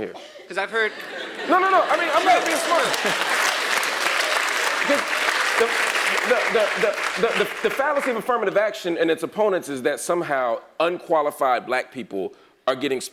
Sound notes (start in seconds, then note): 1.2 laugh; 1.8 applause